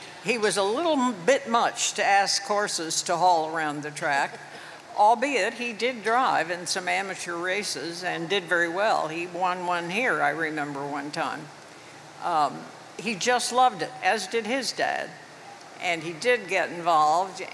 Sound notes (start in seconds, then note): 4.1 chuckles